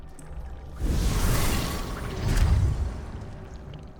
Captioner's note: fire flaring